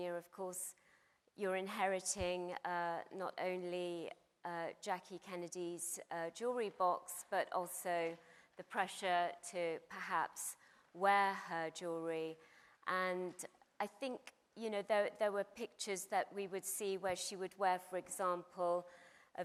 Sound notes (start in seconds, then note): none